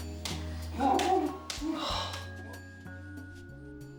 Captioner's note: muffled groans